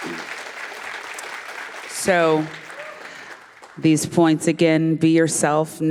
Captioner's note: applause